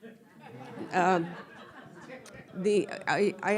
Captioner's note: all laughing